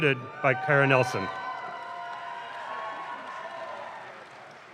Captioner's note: audience claps